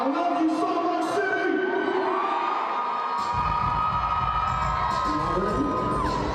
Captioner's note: audience cheering